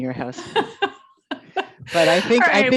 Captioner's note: laughs